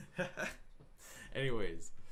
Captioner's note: laughing